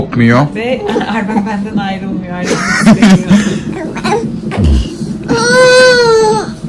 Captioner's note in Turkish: kahkaha